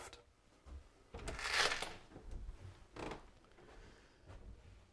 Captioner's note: opening door